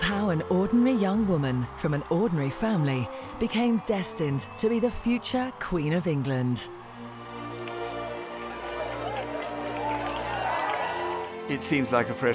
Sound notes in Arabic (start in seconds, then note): 4.5 تصفيق الجماهير